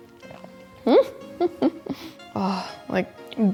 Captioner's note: giggles